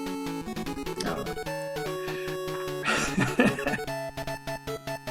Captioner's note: chuckles